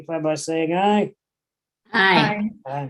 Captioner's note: multiple ayes